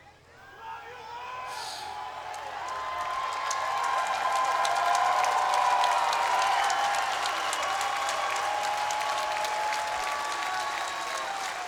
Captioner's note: applause